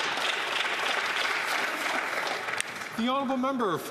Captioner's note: some Applause